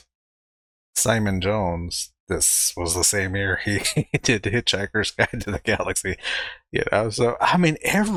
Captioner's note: chuckling